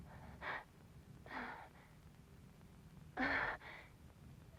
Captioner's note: moaning